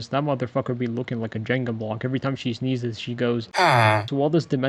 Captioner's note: ahhhhhh